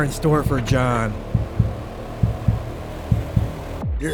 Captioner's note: heart beating